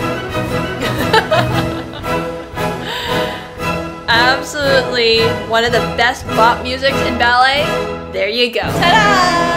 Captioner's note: laughs